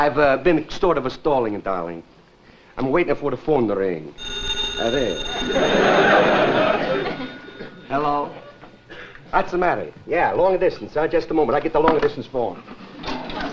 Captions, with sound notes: I've been sort ofa stalling, darling. I'ma waiting for the phone to ring. (phone rings) Hello. What's the matter? Yeah. Longa distance? Just a moment. I'll getta the long distance phone.